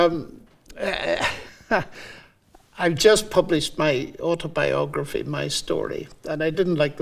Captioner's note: laughing